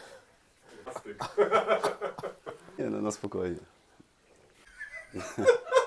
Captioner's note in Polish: śmiech